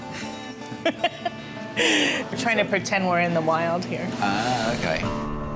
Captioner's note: laughs